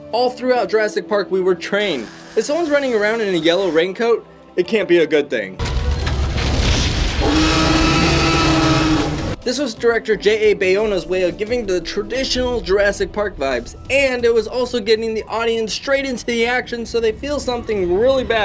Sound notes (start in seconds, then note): 7.1 dinosaur screams